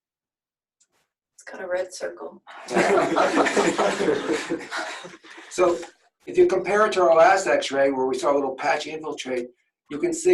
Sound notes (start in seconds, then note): 2.6 laughter